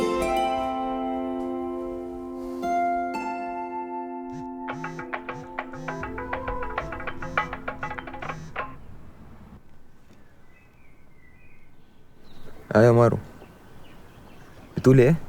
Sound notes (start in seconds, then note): 4.3 phone rings